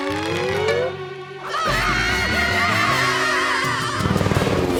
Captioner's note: screaming